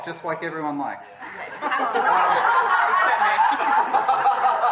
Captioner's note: laughter